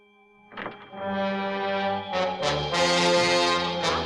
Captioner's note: whining continues